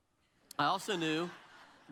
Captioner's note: audience laughs